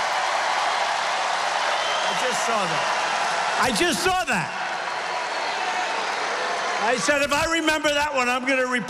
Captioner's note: applause